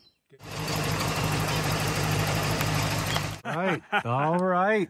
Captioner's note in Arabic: هدير محرك السيارة; يضحك إيغور بصوت عالٍ